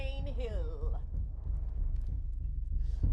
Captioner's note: none